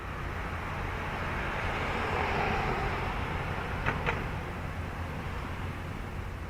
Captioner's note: cars driving past